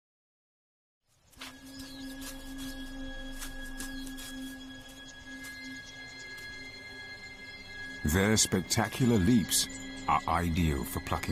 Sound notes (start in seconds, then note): 5.2 bird squeaking; 5.2 dramatic music